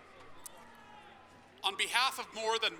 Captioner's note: applause